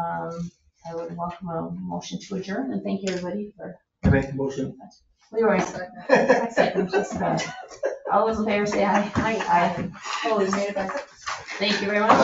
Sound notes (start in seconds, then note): 5.3 people chatter; 5.6 people chuckle